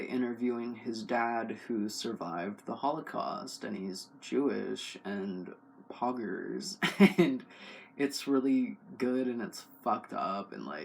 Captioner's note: laugh